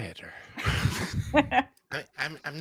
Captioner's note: laughs